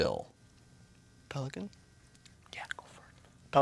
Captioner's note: whispers